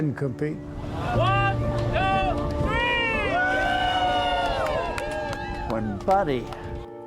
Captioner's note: cheering